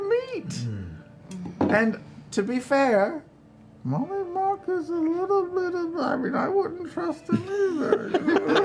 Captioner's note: whispering